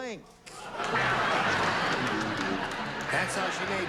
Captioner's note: laughter